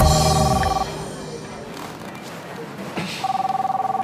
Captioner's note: phone ringing